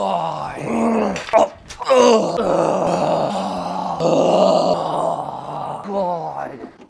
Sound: repeated groans

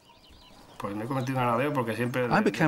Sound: he speaks Spanish

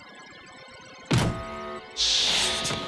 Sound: buzzer sounds

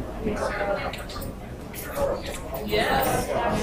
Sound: talking

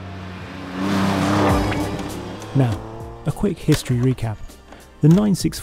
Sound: engine roars

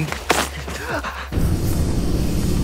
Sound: gasps

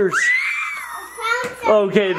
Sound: screams

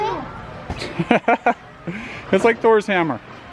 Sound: laughing

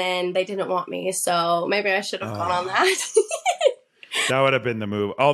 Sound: laughs

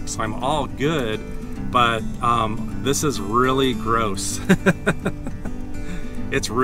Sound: laughter

